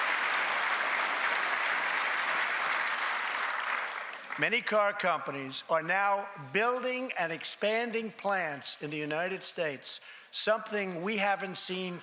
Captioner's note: applause